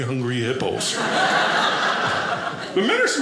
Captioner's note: audience laughing